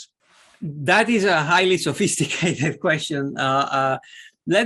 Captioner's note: laughter